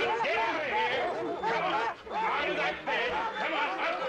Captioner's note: dogs barking